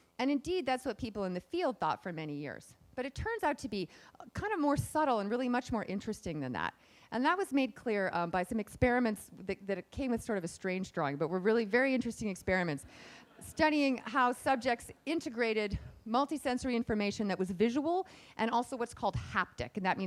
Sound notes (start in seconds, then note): 13.0 laughing